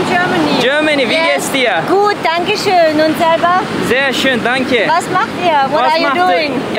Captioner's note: speaking German